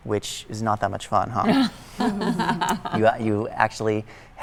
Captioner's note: laughter